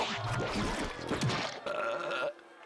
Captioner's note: belching